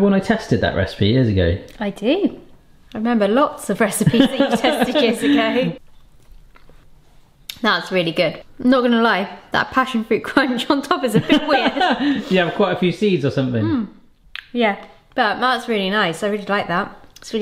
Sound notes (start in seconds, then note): 11.1 laughing